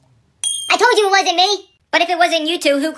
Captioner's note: ding